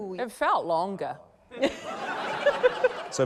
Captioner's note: laughter